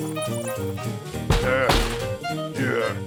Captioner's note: mouses squeak; knocks on door